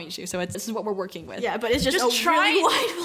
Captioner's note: laughs